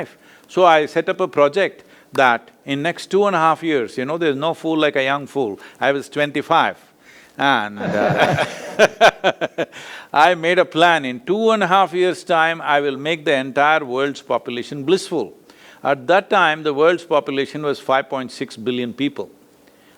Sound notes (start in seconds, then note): 7.8 both laugh